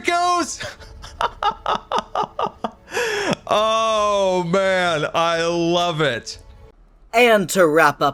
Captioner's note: laughs